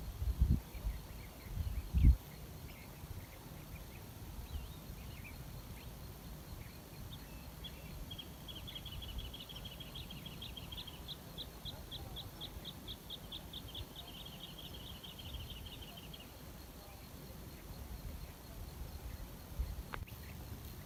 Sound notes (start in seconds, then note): 0.2 voices in background; 3.6 birdsong in background; 11.2 voices in background